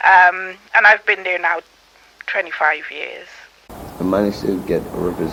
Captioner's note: slowly speaking